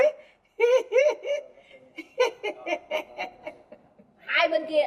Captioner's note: laughing